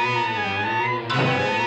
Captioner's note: thumps